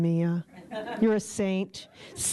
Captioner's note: chuckles